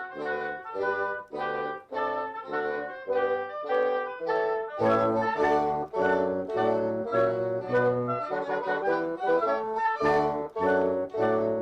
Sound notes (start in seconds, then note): none